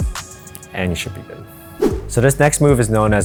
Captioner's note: screen swishing